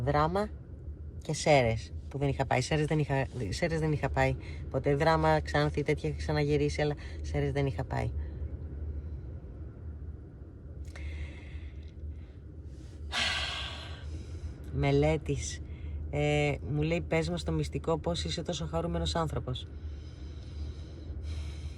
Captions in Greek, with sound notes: Δράμα και Σέρες που δεν είχα πάει. Σέρες δεν είχα σέρες δεν είχα πάει ποτέ. Δράμα ξάνθη τέτοια είχα ξαναγυρίσει αλλά σέρες δεν είχα πάει. [αναστενάζει][ξεφυσάει] Μελέτης. Ε, μου λέει, "Πες μας το μυστικό πώς είσαι τόσο χαρούμενος άνθρωπος."